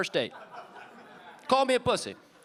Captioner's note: audience laughing